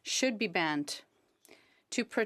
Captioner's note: speaking French